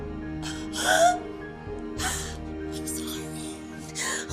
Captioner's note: she cries